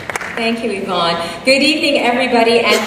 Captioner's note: applause